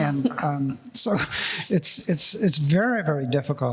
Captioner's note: laughing